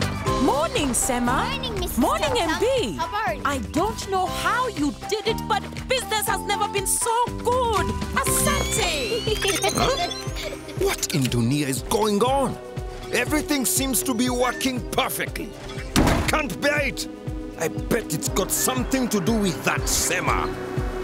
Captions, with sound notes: - Morning, Sema! - Morning, Mrs. Tam Tam! - Morning, MB! I don't know how you did it, but business has never been so good! Asante! (giggling) - Huh? What in Dunia is going on? Everything seems to be working perfectly. I can't bear it! I bet it's got something to do with that Sema.